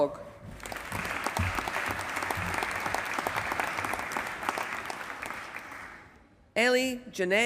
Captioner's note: applause